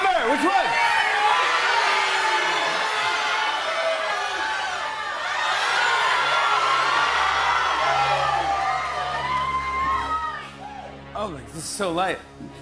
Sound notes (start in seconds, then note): 2.0 audience shouting; 5.2 shouting intensifies